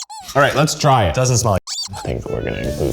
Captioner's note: squeak